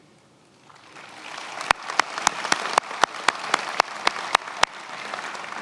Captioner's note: attendees applauding